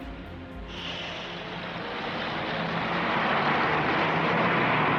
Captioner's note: traffic humming